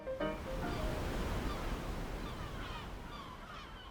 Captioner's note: music fades; seagulls, soft breaking of waves